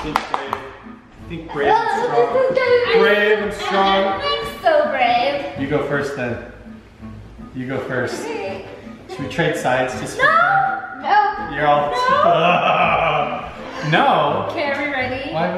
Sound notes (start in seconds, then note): 12.0 laughing